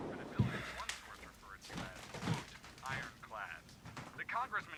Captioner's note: newscaster, on TV